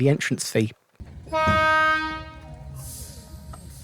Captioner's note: train horn